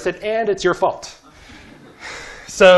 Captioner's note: laughter